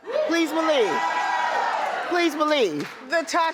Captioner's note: audience cheers